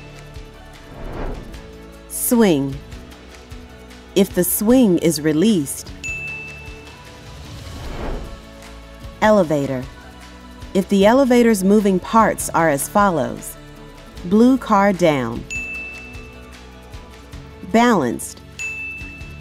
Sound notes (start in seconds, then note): 0.1 bell Rings; 6.0 bell Rings; 15.5 bell Rings